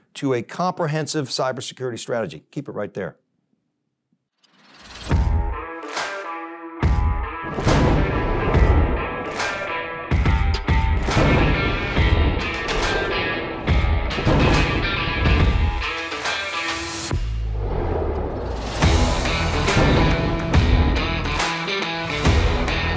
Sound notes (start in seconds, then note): 4.8 energetic music; 7.6 thunder cracking; 18.8 thunder cracking